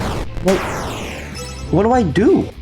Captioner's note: Nightmare Fredbear Explodes